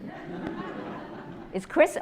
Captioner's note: audience laughs